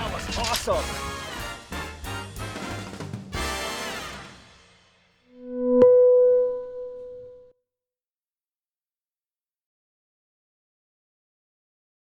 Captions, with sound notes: That was awesome. (upbeat jazz music) (bell dinging)